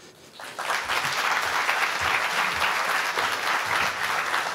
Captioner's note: audience applauding